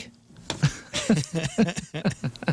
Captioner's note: laughing